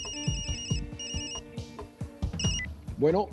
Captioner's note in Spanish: Suena el celular